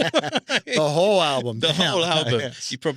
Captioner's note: laughing